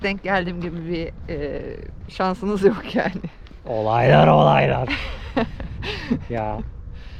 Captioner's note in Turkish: kahkaha